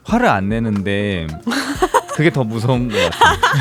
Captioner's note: laughs